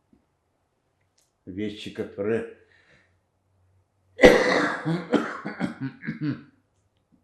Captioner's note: coughing